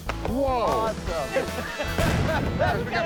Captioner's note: loud boom